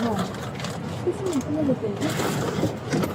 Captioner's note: speaking in foreign language